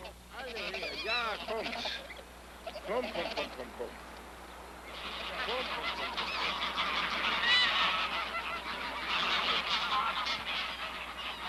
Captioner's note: Dr. Lorenz Communicating with Geese, Birds Cawing